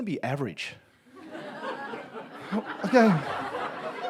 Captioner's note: audience laughs